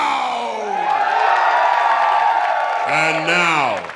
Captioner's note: crowd cheering